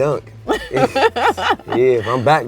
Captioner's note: laughs